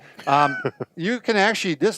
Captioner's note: laughing